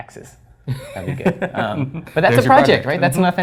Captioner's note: laugh